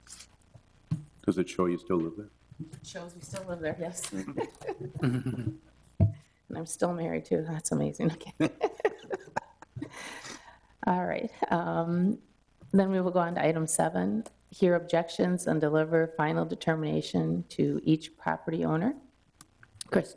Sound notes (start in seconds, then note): 4.1 laughs; 8.0 laughs